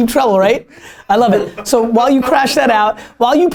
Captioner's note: laughter